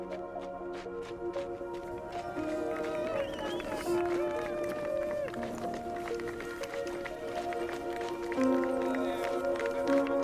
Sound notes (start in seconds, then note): 0.1 dramatic music; 2.3 audience cheering